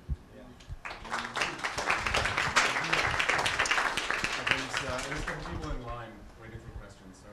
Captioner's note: applause